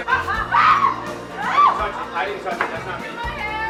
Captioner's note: shouting